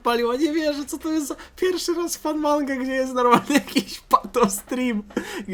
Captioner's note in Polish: śmiech